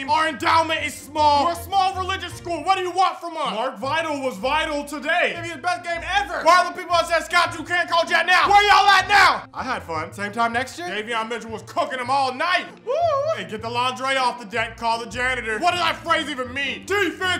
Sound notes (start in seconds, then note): 12.7 cheering